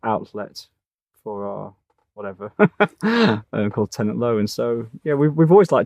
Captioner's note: laughs